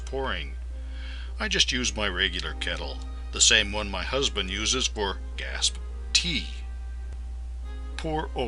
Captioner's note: gasp!